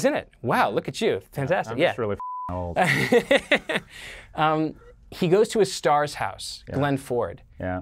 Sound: laughing

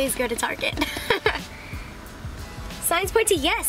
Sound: chuckles

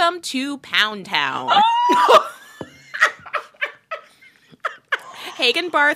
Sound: laughter

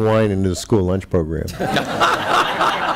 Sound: laughter

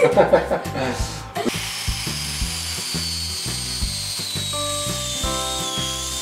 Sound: both laugh; saw whining

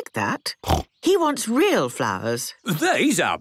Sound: snorting

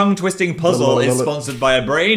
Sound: gargling

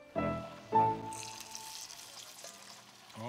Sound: sizzling

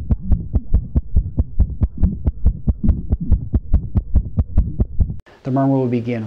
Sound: sound of heart beating

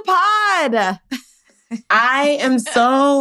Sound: chuckles

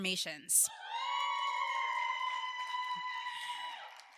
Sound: audience cheering

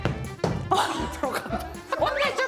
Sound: thump

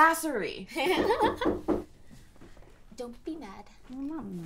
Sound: laughing; knock at door

